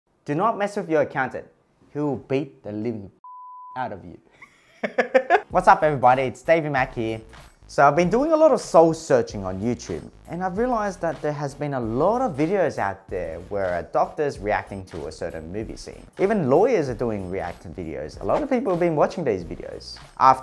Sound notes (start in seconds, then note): 3.2 beep